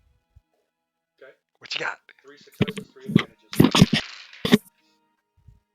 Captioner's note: quietly